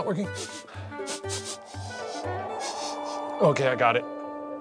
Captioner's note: sniffing